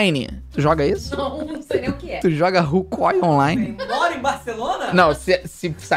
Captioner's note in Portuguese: faz som de nojo